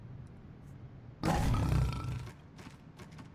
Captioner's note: loud rumbling